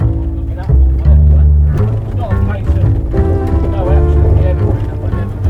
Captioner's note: cab riders chatting